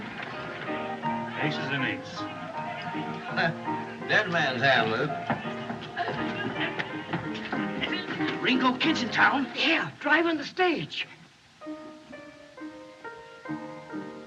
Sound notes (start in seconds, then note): 5.6 laughs; 6.7 old Man Stammering; 11.6 piano Continues